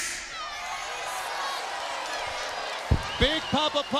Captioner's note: crowd boos